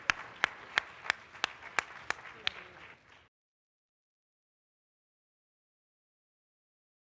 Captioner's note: applause